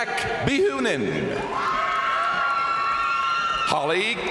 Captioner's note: crowd cheering; crowd applauding